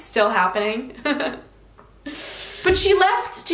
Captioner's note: chuckling